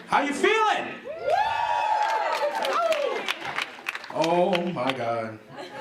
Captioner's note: clapping and cheering